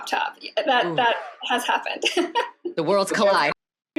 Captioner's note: laughs